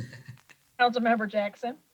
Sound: chuckling

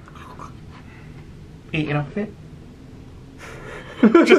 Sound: mimics eating noises; laughing

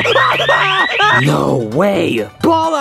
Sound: alarm blares; screams

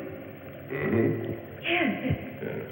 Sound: grunts inquisitively

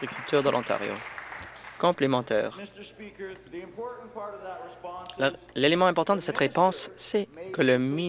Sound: applause

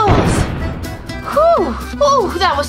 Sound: crashing

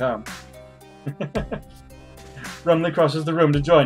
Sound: chuckles

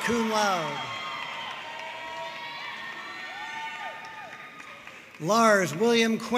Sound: audience cheering and applauding

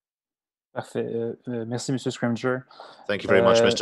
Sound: speaking in French

